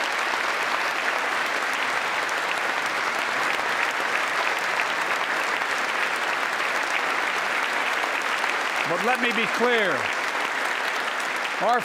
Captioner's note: applause